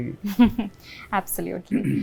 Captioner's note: chuckles